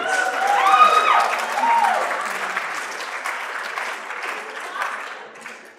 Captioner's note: applause